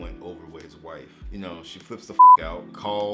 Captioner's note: beep